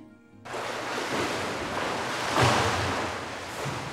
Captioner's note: water splashing